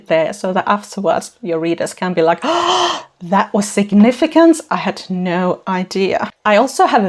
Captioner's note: gasp